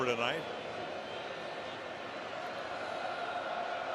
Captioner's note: crowd cheering